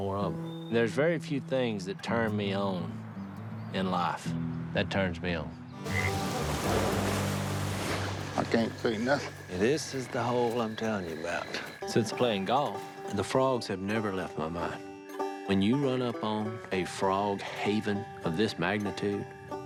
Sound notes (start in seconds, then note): none